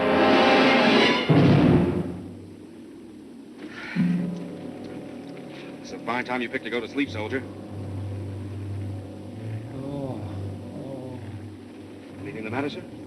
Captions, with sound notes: It's a fine time you picked to go to sleep, soldier. [GROANING] Anything the matter, sir?